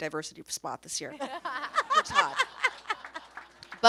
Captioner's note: everyone laughs